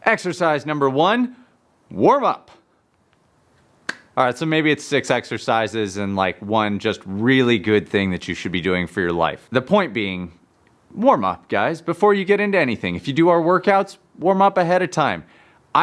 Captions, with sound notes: Exercise number one, warmup. (hands clap) All right, so maybe it's six exercises and, like, one just really good thing that you should be doing for your life. The point being warm up, guys, before you get into anything. If you do our workouts, warm up ahead of time.